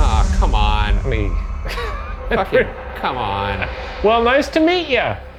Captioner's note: laughs